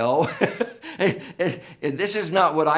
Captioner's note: laughs